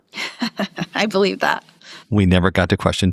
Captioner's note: laugh